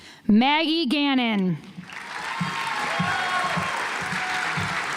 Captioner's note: audience applauds